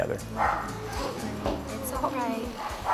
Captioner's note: group chattering